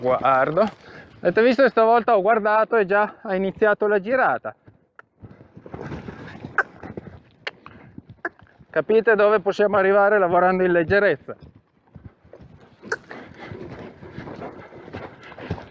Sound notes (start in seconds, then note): 6.4 cluck; 12.8 cluck